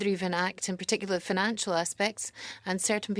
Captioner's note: speaking French